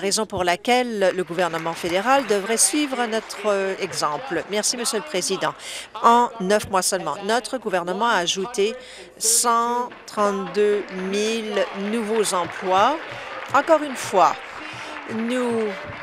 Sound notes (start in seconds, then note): 4.2 applause; 14.6 applause